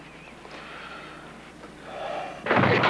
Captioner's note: rumbling sound